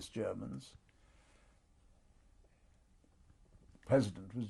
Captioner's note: pauses for 3 seconds